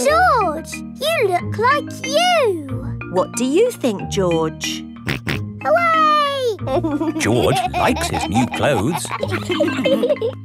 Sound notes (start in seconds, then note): 6.6 snorts and laughs